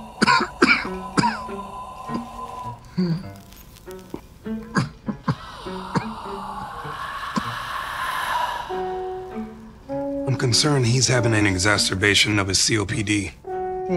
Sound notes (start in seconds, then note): 0.1 patient coughing; 5.3 Acinetobacter whooshing